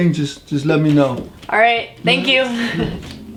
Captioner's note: laughs